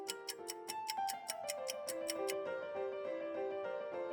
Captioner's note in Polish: tykanie zegara